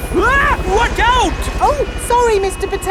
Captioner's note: screams